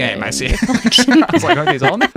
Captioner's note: laughing